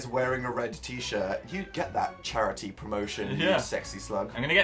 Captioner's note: chuckles* Yeah